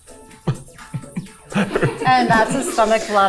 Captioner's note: chuckling; crew member chuckling